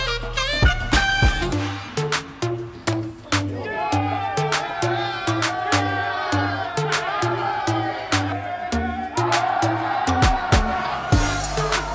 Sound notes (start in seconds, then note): 3.4 cheering